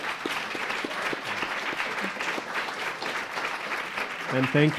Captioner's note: audience applauding